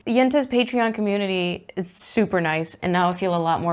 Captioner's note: none